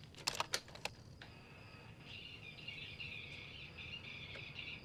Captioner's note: tape rewinding